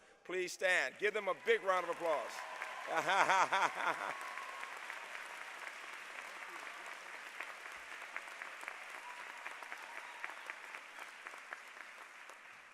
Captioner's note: laughter